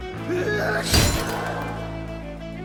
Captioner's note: thud; crowd gasps